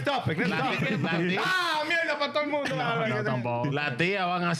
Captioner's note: speaking In Foreign Language